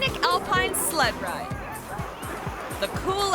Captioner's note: dog barking; people chattering